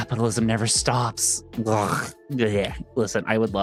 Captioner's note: groans